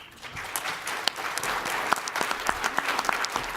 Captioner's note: applause